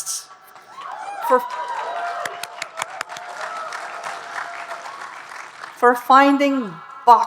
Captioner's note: audience cheering and applauding